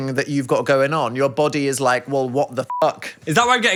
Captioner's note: beep